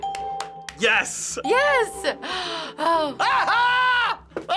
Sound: sighing; laughing jovially

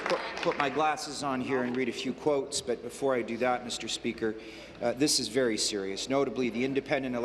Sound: applause

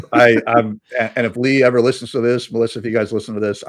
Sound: laughing

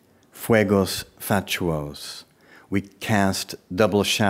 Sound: speaking in foreign language

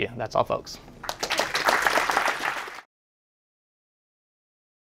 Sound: clapping

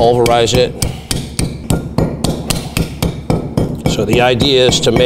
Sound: hammer tapping

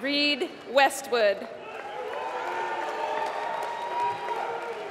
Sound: applause

